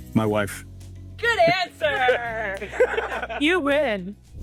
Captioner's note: laughing